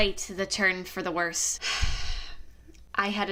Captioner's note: exasperated sigh